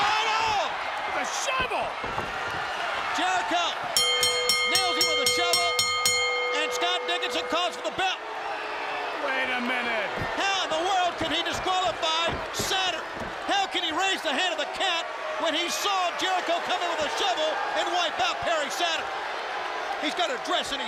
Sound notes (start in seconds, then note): 5.4 crowd cheering; 7.4 bell ringing; 10.1 crowd cheering